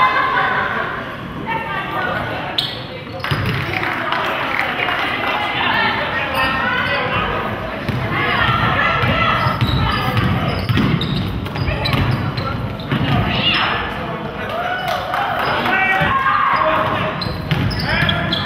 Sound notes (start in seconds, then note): 3.6 crowd claps